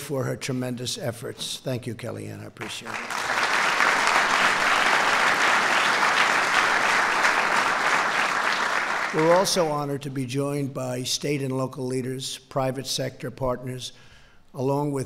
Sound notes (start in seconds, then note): 5.8 applause